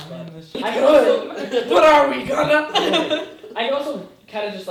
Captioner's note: laughing